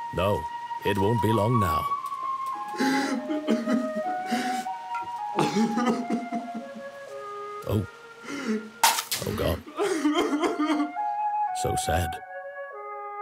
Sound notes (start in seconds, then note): 2.6 crying